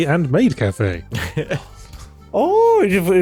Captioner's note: laughter